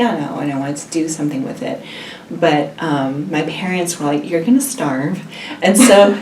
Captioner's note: all laugh